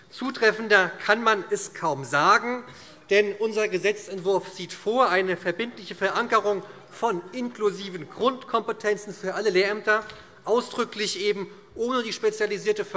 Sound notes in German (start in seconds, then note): none